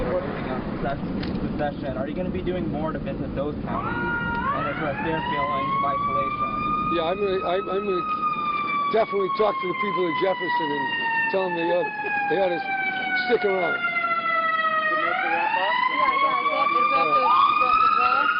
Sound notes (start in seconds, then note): 14.4 siren